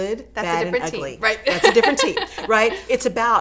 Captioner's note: laughs